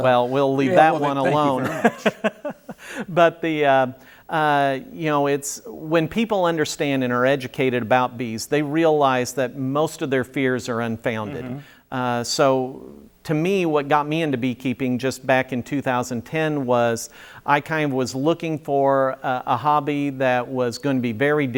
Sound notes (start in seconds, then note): 3.5 laughing